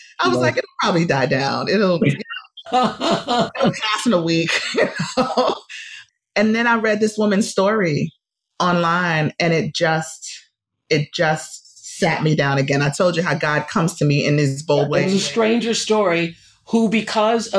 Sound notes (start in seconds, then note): 2.7 laughter; 4.7 laughs